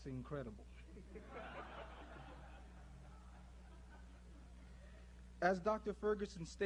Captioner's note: laughter